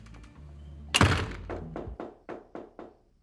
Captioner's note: knocking on door